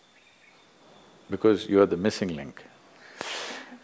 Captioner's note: laughs